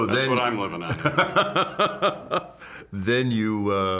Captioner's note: laughs